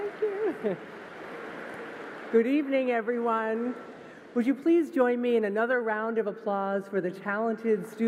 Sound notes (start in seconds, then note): 0.0 applause